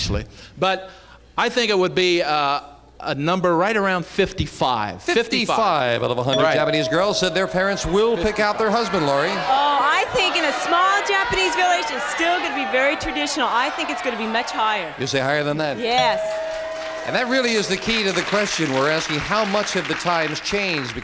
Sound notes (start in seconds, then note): 15.9 bell